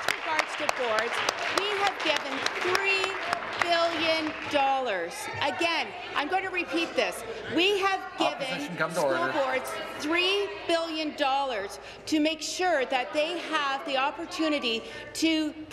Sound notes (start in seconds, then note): 0.0 applause